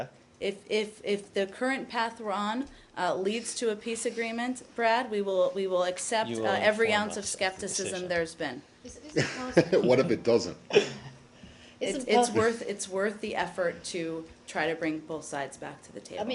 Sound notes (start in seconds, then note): 9.1 laughter